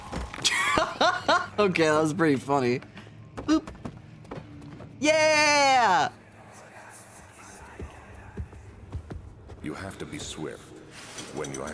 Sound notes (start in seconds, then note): 0.6 laughs; 7.3 footsteps